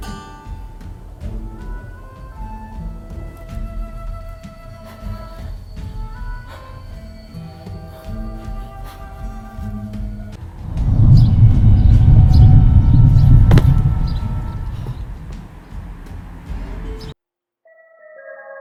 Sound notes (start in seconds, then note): 1.3 eerie hum; 10.4 distant thundering noise